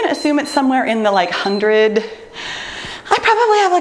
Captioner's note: timer beeps